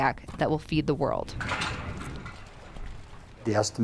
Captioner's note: clattering metal